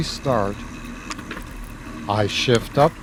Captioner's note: click